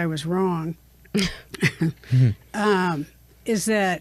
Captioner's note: chuckle